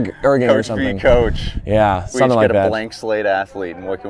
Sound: laughs

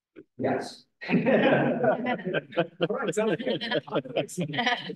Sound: laughter

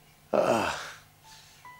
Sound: groans

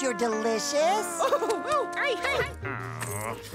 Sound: crying

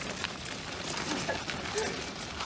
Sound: laughing

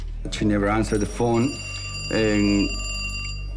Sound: phone ringing

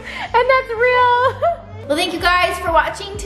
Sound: laughs

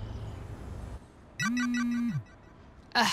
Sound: train in the distance; birds chirping; notification alert

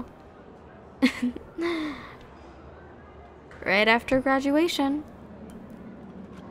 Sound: soft laugh

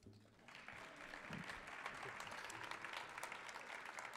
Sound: audience applauding

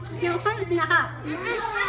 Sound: laughing

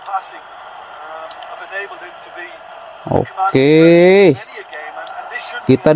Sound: applause

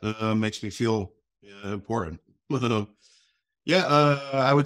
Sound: chuckles

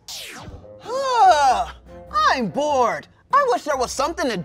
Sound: groans

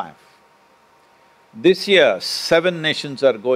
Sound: none

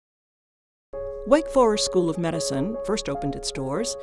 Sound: voiceover

